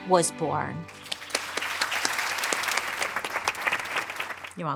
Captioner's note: audience applauding